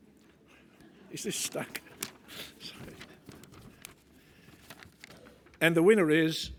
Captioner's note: laugh